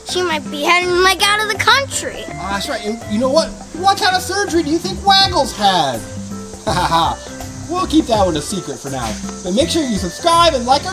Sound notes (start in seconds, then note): 6.8 laughs